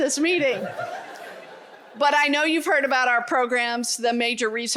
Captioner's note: laughter